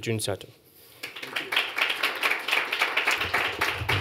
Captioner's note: applause